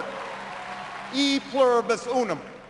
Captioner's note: applause